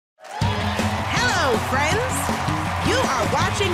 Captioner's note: cheering and applause